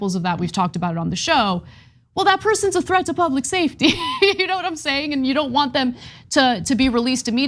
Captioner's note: laugh